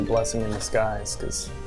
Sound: text alert

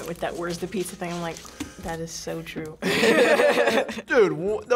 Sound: both laugh

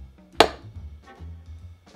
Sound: clank

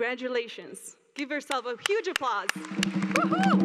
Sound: applause and drumming

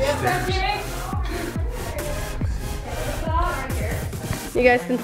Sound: all mumbling

